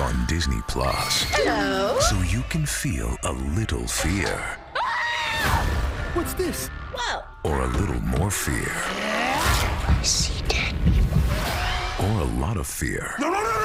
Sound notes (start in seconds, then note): 4.7 screaming